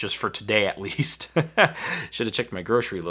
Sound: laughing

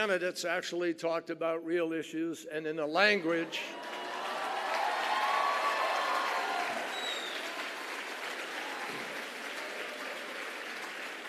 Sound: applause

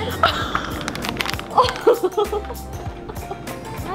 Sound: laughing

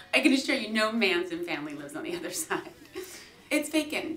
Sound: giggling

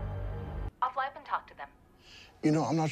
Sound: over the phone speaker

